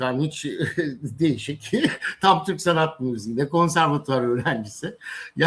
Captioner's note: kahkaha